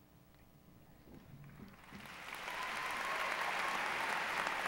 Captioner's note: applause